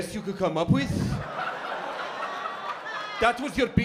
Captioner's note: laughter